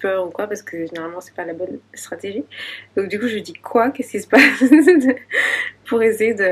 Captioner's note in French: rires